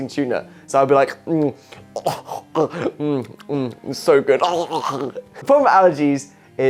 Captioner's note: imitates eating and choking